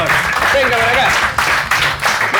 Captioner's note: applause